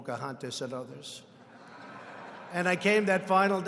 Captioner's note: laughter